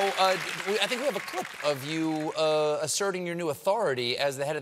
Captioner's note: applause